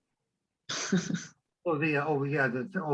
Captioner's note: chuckles